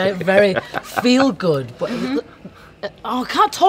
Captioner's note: Simon laughing